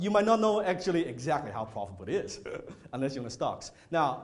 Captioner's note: chuckles